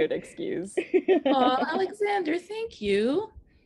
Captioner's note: laughing